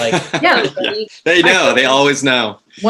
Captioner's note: laughs